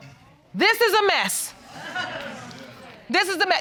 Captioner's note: audience laughing